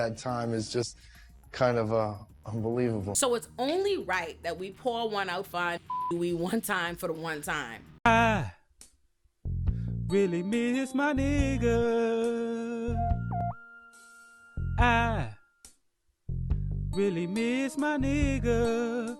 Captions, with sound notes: (upbeat music) So it's only right that we pour one out five (beep) Do We one time for the one time. I really miss my nigga I really miss my nigga